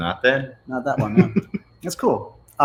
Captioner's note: laughs